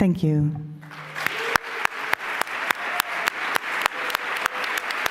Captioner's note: applause